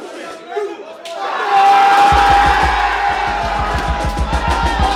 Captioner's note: cheering